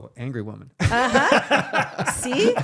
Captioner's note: laughing